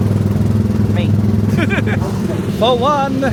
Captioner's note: laughs